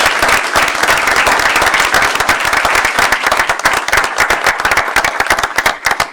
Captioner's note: applause